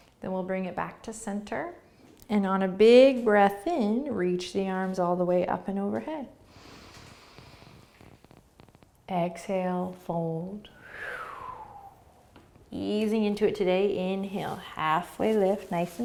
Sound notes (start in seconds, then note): 6.4 breathing; 10.6 exhaling